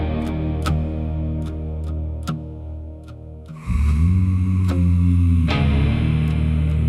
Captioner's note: sighs and gasps